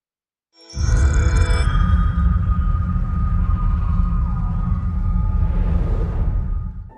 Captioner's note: dramatic sound